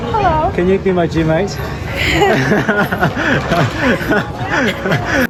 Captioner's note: shy laughers